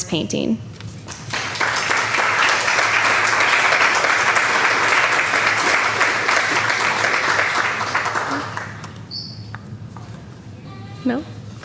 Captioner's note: applause